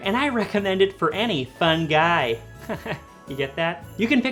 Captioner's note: laughs